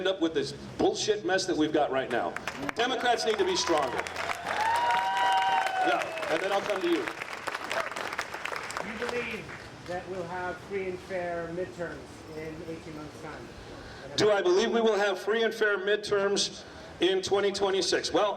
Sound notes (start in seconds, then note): 2.4 cheering